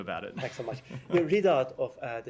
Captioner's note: laughter